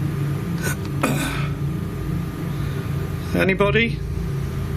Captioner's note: clearing throat